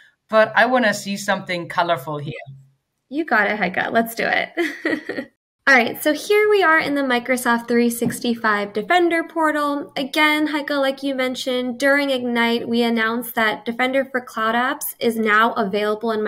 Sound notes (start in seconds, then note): 4.6 chuckles